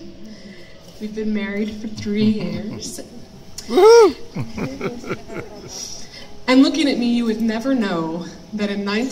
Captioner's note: cheers